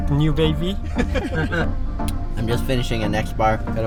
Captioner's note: chuckles